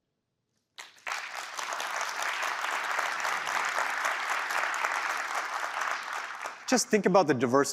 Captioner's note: applause